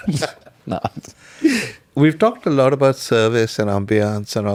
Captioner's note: laughs